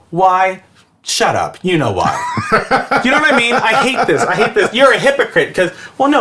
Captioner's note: laughs